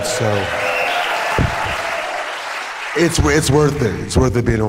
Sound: applause and whooping

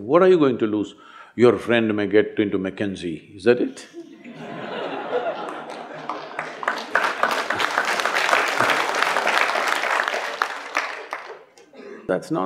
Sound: laughter/Applause

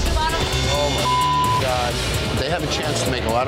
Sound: beep

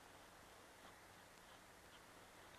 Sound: none

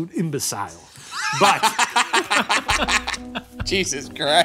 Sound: laughing

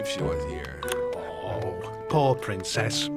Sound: sighs

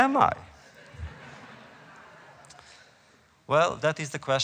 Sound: laughter

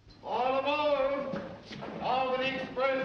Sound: man over P.A

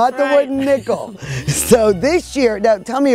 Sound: laughs

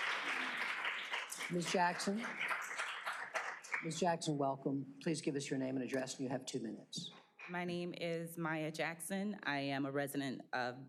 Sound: applause

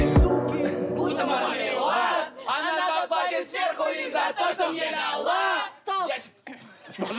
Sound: crowd noise

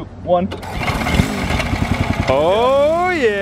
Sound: machine whirring

